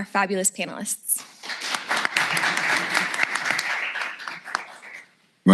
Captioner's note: applause